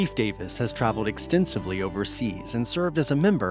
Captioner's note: voiceover